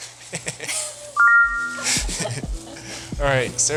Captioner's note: text chiming brightly; laughing